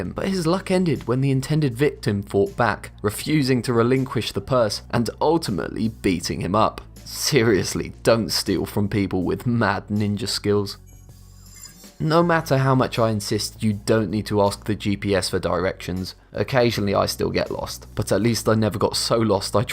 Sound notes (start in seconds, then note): 11.2 futuristic ringing